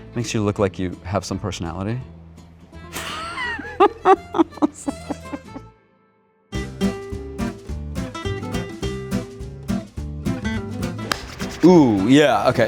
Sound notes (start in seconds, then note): 3.0 laughs; 6.5 bright music